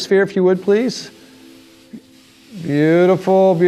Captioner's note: air whooshing